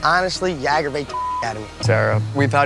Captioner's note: beep